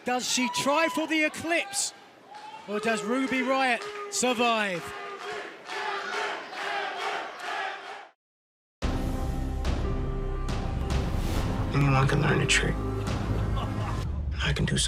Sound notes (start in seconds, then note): 6.8 fans chanting